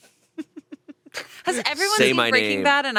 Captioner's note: laughing